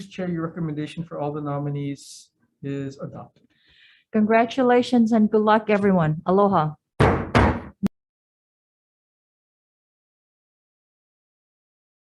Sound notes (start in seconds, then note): 7.0 gavel banging